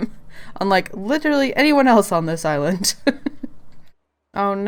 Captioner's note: laughs